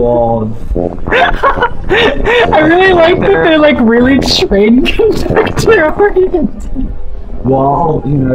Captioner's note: laughing